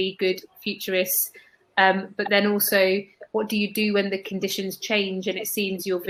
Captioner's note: erm